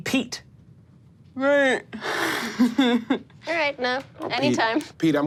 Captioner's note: laughs